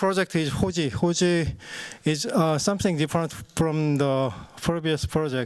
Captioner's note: non-english speech